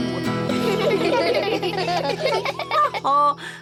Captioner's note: all giggle